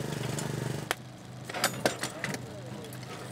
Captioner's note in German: Scheppern